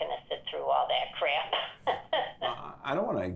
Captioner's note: laughs